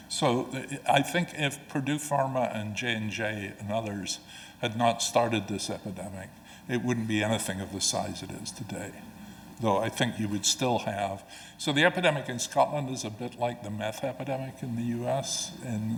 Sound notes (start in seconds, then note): none